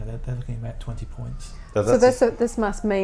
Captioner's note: background siren